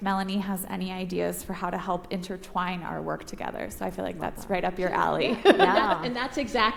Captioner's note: laughs